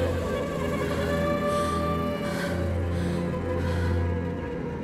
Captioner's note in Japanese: 荒い息